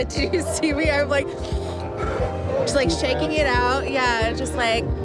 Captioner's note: inhales and exhales